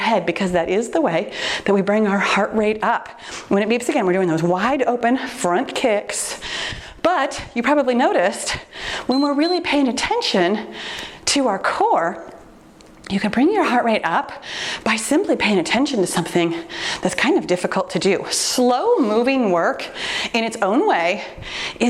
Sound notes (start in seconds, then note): 9.1 timer beeps